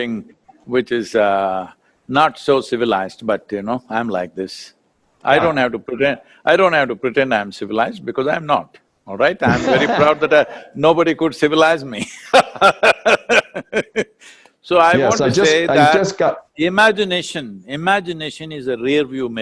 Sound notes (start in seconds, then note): 9.4 laughs; 12.2 laughs